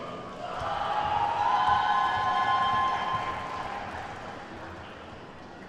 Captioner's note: attendees whooping and clapping